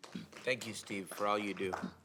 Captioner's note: applause